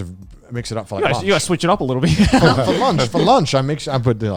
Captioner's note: laughs